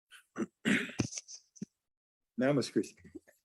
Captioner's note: clears throat